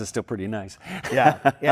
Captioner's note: laughing